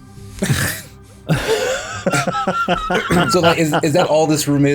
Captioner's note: laughs for grave robbing